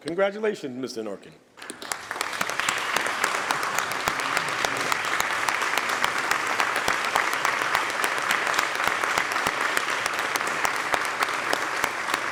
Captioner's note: applause